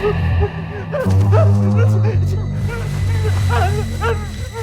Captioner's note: Michael screams